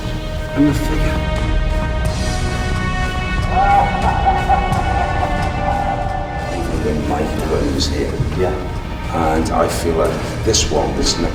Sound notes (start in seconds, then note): 0.3 dramatic music; 3.4 sinister laughing